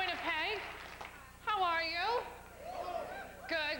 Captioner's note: sparse hoots